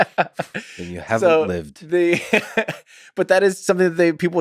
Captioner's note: Tim laughs